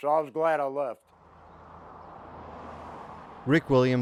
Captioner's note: moving vehicle engine roaring